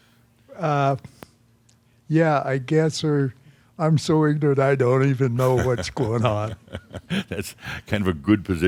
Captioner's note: Adamus chuckles